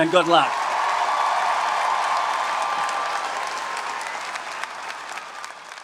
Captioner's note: audience cheering and applauding